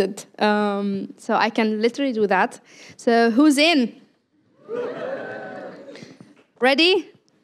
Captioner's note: cheers and applause